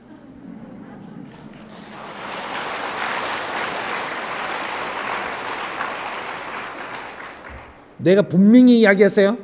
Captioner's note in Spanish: Aplausos